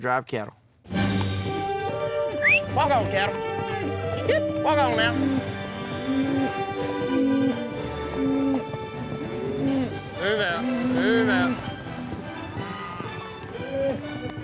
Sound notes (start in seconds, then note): 2.3 booger whistles; 4.8 mooing